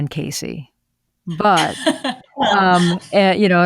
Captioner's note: laughs